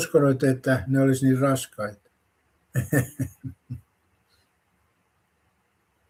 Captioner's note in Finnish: naurua